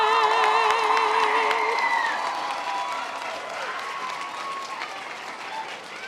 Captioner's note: members of the audience cheering